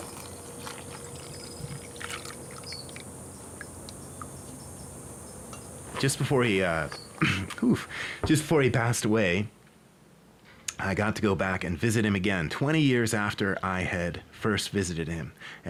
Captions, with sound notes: [milk pouring into a glass] Just before he uh... [clears throat] Just before he passed away. I got to go back and visit him again. 20 years after I had first visited him.